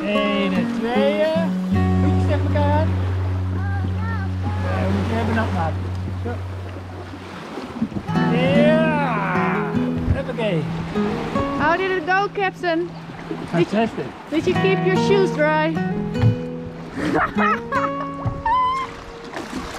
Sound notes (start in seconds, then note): 0.8 speaking foreign language; 17.0 laughing